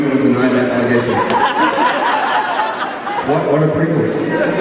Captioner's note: crowd Laughs